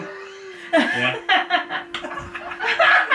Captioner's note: laugh